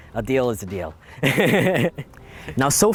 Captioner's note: laughs